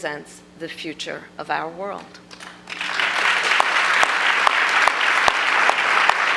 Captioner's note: applause